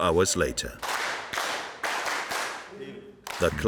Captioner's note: group clapping